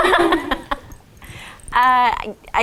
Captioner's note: all laugh